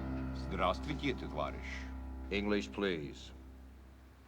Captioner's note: speaking russian